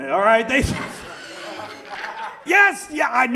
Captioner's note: audience laughs